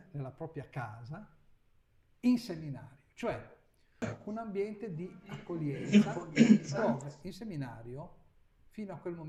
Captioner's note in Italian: schiarire la voce